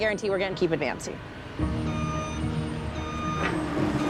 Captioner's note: machine beeping